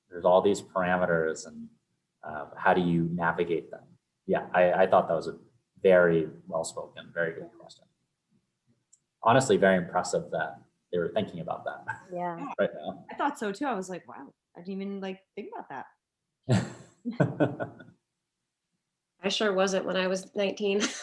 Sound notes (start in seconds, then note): 11.0 laughs; 17.2 laughs